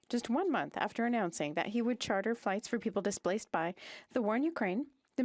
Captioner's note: speaking French